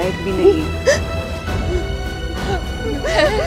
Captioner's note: Meher crying